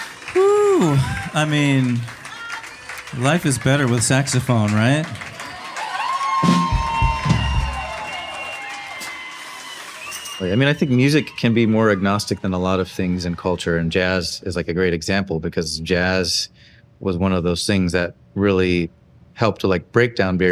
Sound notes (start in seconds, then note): 5.4 audience applauding and cheering